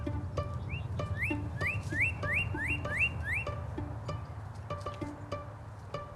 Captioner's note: bird chirping